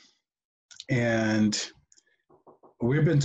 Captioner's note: knocking at door